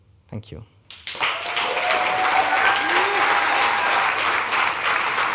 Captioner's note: audience clapping